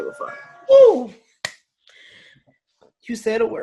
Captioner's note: whooping